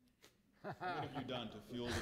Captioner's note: laughs